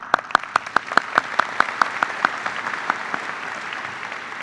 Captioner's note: applause